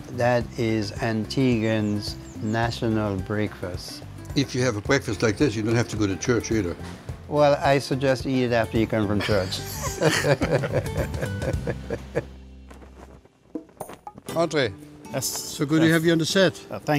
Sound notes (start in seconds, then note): 9.1 both laugh; 12.6 flag flaps